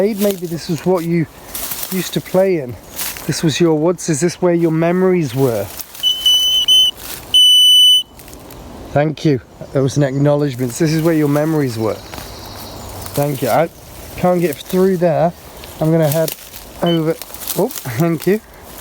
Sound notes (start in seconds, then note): 5.8 leaves rustling; 6.0 beeping; 12.1 leaves rustle; 16.3 leaves rustling; 16.8 beep